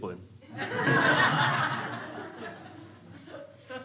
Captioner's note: crowd laughs